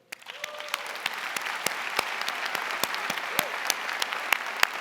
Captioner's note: audience applauding